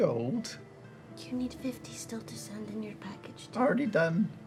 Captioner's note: whispering